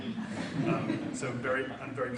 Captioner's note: audience laughs